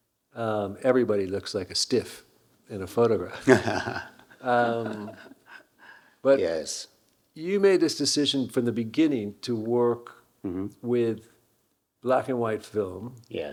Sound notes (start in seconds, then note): 3.3 Hiroshi laughing